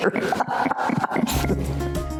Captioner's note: laughter